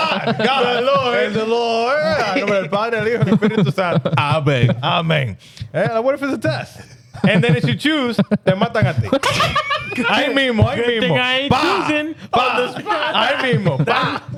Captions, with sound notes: God, God, the Lord. The Lord. (Speaking In Foreign Language) I beg, I beg. What if it's a test? And then if you choose, then matangatih. (Laughing) I mean more, I mean more. You think I ain't choosing? Bah, bah, bah. I mean more, bah.